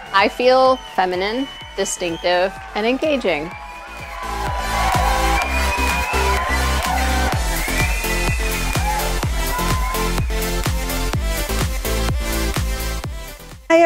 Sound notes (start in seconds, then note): 4.1 audience cheering; 10.7 upbeat music